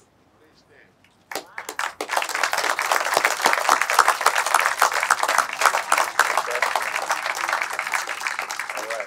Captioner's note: clapping